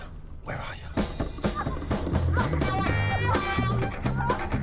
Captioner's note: woman moaning